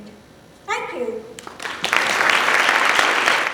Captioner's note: applause